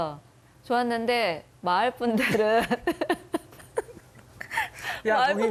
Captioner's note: chuckles